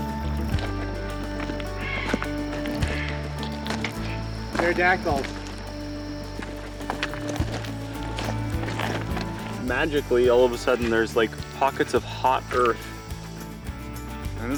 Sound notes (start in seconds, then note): 2.0 bird cawing